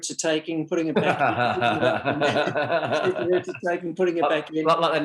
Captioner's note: laughing